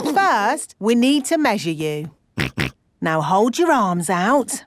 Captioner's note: snorts